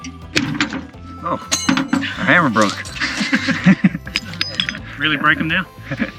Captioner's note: laughing